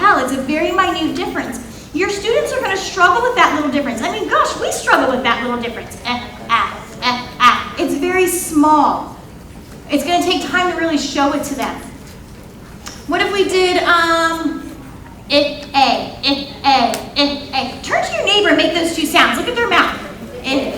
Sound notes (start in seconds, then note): 6.4 imitating sounds; 15.2 imitating vowel sounds